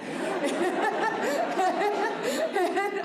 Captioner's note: laughter